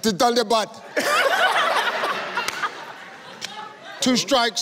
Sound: laughs

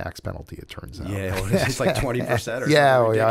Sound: laughter

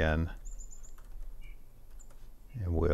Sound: keyboard chattering

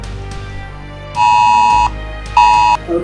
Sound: emergency alert sounds on phones

